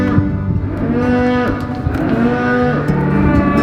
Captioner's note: cows moo